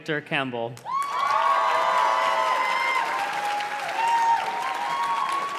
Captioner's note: audience cheers and claps